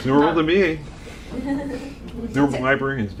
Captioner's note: laughing